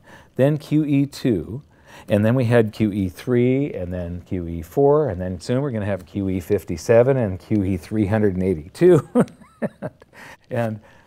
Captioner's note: laugh